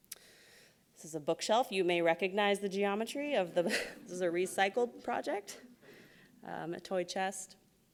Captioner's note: laughs